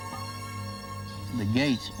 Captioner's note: pounding